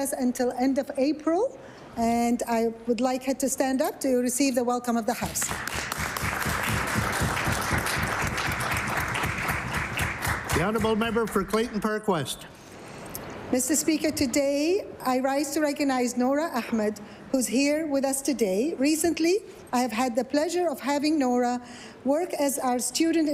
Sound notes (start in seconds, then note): 10.5 applause